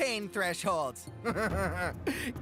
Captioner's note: Chris Chuckling